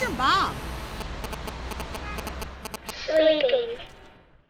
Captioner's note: buzzing